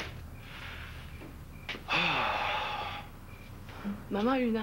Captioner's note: Il soupire